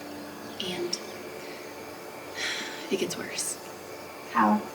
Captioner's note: sighs